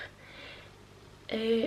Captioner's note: none